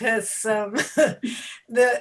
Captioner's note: laugh